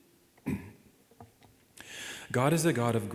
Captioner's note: clears throat